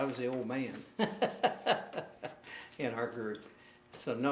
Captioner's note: laughing